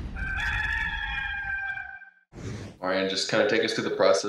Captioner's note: rooster crow